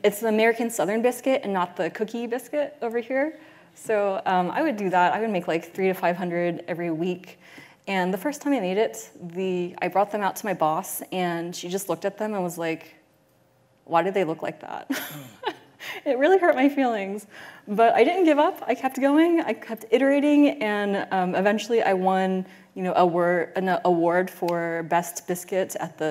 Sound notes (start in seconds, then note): 14.9 chuckles